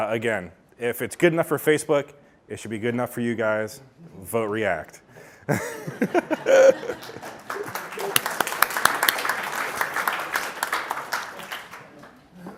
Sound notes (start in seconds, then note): 5.5 audience laughing; 5.5 laughs; 8.4 audience clapping